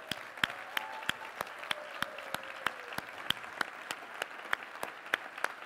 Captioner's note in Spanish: aplausos